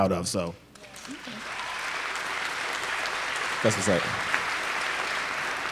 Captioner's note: applause